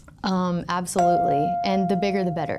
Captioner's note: chime pings